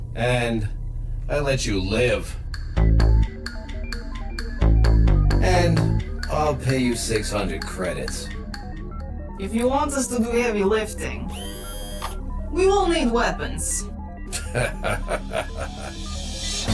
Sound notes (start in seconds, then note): 2.8 ominous percussion; 11.0 whirs; 14.3 Krogarr laughs wickedly